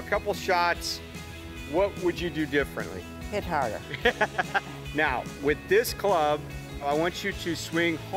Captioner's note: both laugh